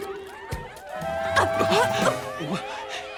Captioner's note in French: grognements